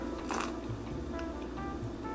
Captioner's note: sips